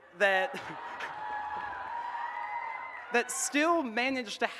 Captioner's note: audience cheers and claps